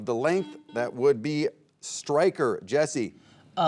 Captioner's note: buzzer beeping